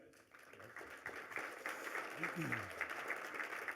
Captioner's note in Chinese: 掌声